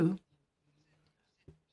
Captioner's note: speaking in French